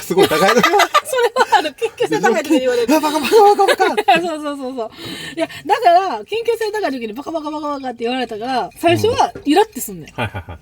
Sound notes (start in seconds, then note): 0.1 laughs